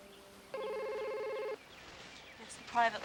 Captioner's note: phone ringing